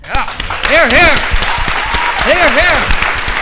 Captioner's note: cheering and applauding